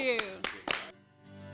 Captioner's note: �applause�